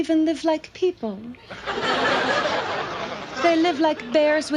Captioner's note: audience laughs